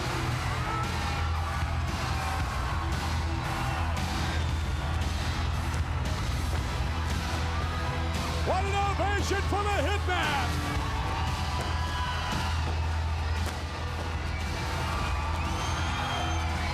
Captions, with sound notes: (upbeat rock music) (fireworks popping) What an ovation for the Hitman.